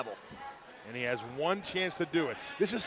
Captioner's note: crowd chatter